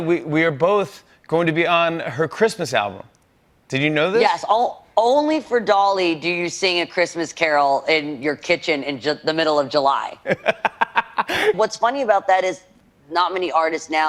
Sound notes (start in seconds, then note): 10.2 laughs